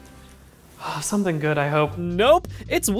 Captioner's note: sigh